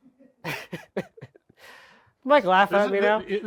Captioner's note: speaker laughing